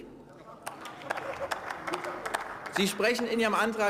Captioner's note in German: Beifall